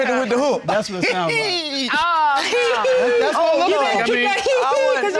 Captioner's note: laughs